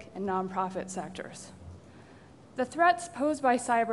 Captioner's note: pause